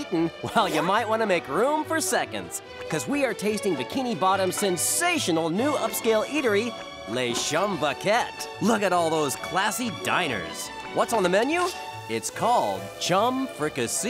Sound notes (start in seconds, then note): none